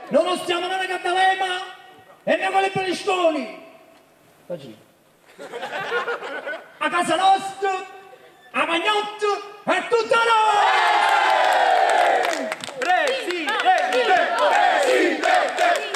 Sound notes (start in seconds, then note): 5.3 crowd laughs; 10.4 crowd cheers; 12.8 crowd